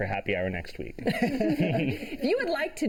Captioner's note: laughter